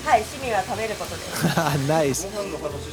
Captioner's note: laugh